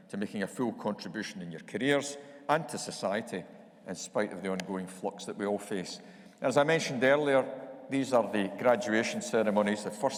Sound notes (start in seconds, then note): none